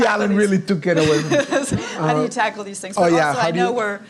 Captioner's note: laughs